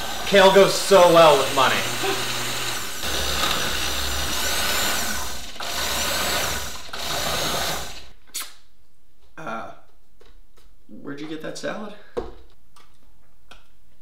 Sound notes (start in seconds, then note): 1.4 blender whirring